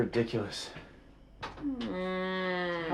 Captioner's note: groan